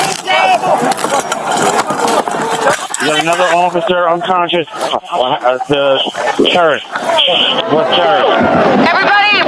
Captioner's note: shouting